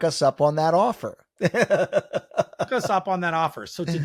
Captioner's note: laughing